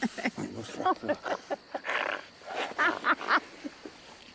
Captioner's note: Ara laughing